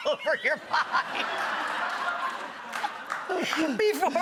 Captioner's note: audience laughs